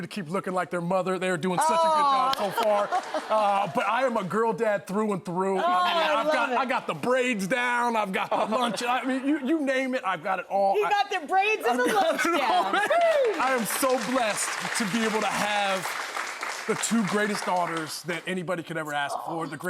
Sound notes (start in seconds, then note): 2.3 clapping